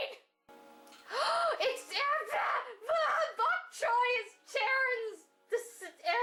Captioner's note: gasp